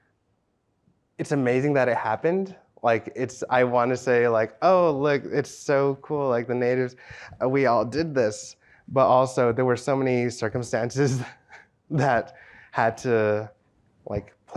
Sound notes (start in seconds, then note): 11.9 laughs